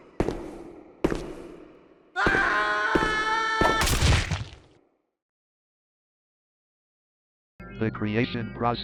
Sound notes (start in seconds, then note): 2.2 man screams